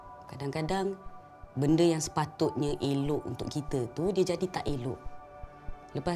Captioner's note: in Bahasa Melayu